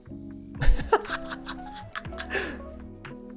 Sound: laughter

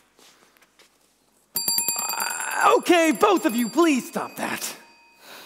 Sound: bell continues ringing even faster

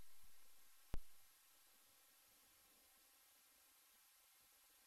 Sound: quiet TV static

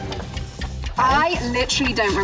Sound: clock ticking

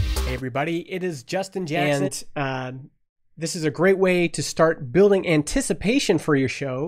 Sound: audio from sample podcast episode

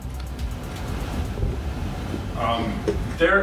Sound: camera scrapes

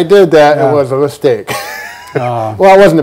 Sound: laughing

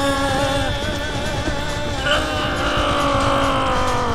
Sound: groaning

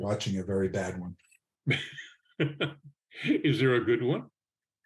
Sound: laughing

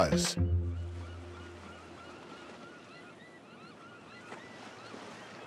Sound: seagulls calling

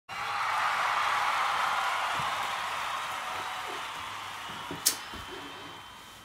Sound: cheering

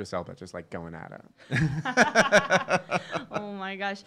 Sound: laughing

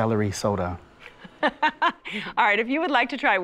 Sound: laughs

